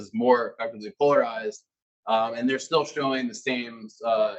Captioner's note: male Voice